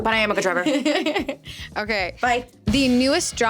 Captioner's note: laughing